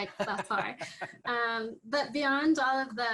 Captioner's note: laughs